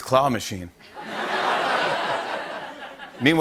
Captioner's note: laughter